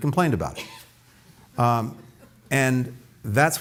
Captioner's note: laughter